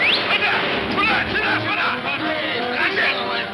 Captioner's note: Pancho whistles; Pancho speaking in Spanish